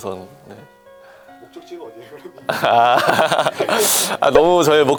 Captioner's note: laughter